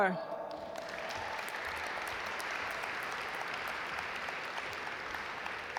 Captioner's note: audience applaud